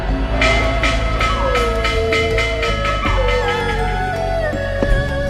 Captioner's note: bell ringing, dogs howling